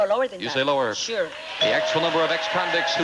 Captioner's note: audience applauding